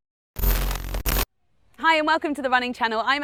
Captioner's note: electric static